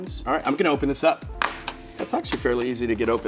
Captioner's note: box cracking